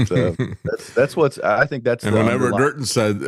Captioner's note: laughs